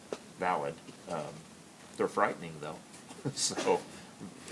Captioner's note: laughs